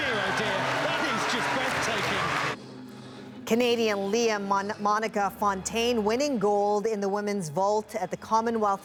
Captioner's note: applause